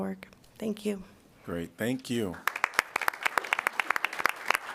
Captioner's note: applause